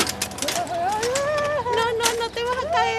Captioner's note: crying